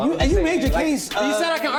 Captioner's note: arguing